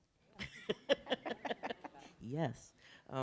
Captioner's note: laughing